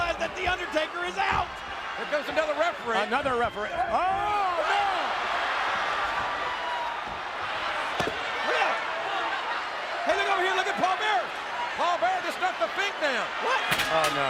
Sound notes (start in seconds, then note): 5.5 crowd chattering